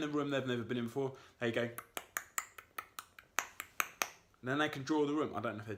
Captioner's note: clicks tongue